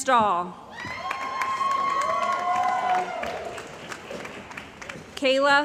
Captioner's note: cheering & Applause